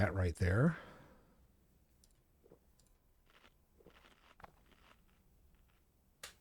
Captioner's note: silence